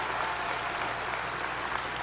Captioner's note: applause